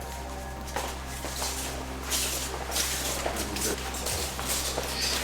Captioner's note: feet shuffling